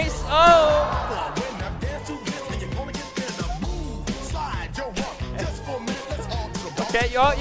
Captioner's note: audience gasping